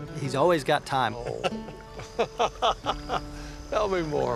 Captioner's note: laughter